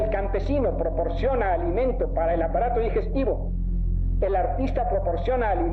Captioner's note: person speaking Spanish